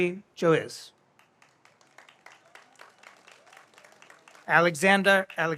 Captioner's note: audience applauds